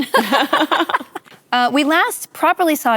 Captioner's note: laughter